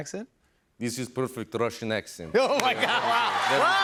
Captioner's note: Russian accent